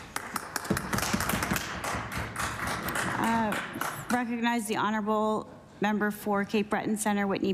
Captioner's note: applause